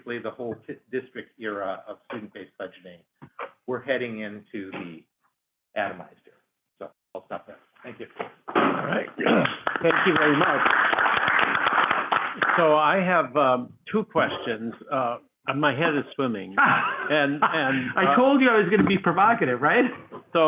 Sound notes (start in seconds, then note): 9.3 applause; 16.5 laughs